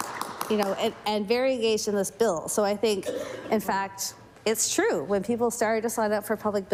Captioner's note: some Applause